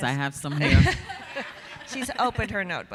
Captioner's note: audience laughing